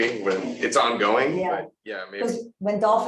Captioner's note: none